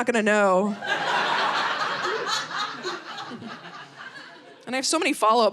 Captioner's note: audience laughing